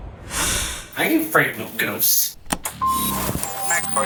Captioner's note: beeping